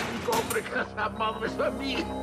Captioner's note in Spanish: sonido cerrar puerta